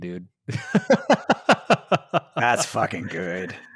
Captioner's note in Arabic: يضحك